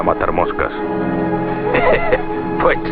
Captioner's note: laughs